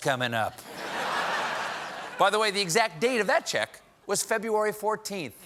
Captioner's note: laughter